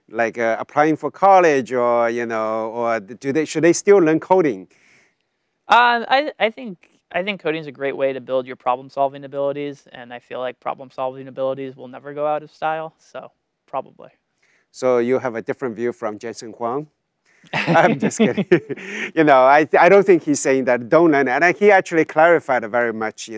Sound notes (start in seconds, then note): 17.5 laughs